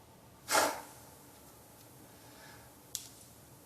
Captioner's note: snorts